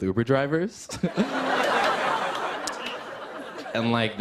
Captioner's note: laughter